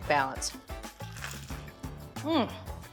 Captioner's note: chicken crunching